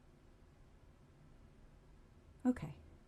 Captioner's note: a pause